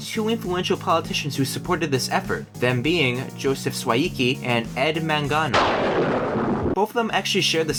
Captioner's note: thunder